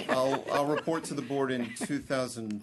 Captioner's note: laughter